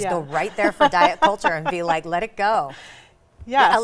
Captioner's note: laughs